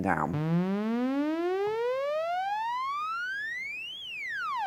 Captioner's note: high pitched whirring